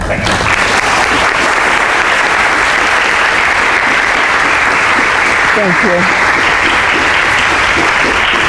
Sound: applause

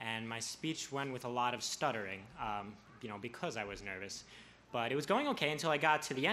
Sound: none

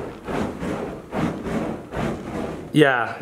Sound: flames whooshing

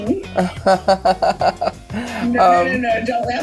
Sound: laughing

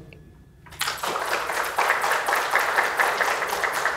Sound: applause

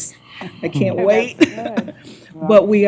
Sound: laughter

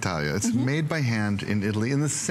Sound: foreign language

